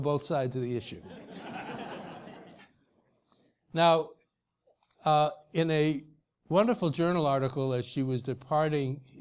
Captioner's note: laugh